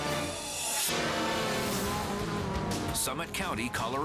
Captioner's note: engines revving